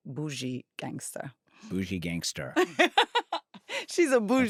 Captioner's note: laughs